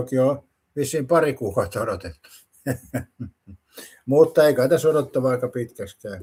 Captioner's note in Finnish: naurua